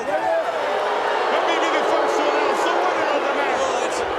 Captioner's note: audience jeers